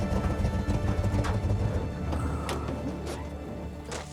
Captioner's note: engine turns off